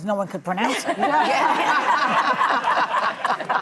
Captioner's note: laughing